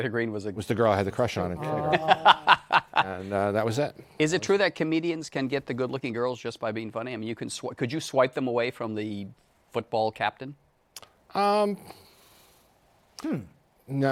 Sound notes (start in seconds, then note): 1.6 laughs